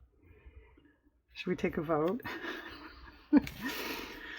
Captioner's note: laughs